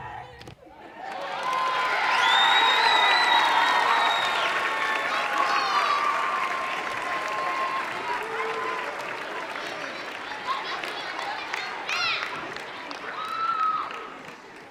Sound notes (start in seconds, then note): 1.0 audience cheering